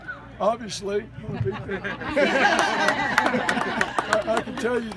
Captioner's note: laughter & applause